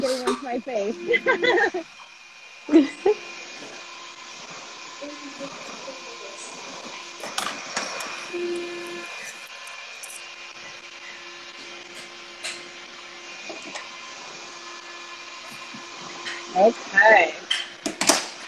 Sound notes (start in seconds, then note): 3.0 laughs; 7.8 RevAir whirs